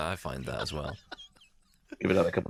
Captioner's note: laughs